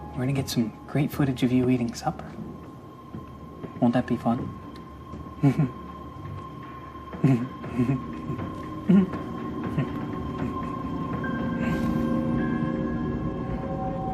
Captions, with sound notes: We're gonna get some great footage of you eating supper. Won't that be fun (chuckles) (dramatic music)